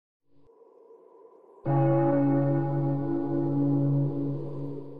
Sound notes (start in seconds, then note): 1.7 bell tolling